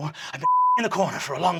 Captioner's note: beeping